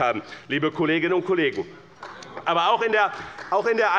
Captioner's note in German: Beifall bei Abgeordneten der CDU